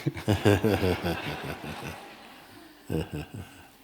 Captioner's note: laughter